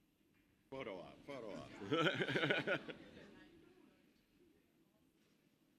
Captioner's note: presenter laughs